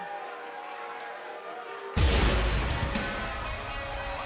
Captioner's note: cheers and boos